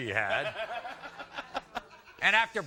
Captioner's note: laughs